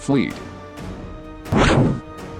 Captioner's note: blast impact